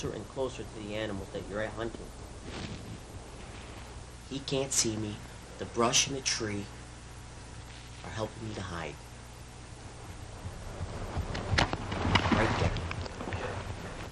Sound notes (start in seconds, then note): 1.2 brush rustling; 11.0 bow whooshing